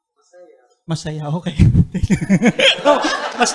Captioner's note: chuckles; laughter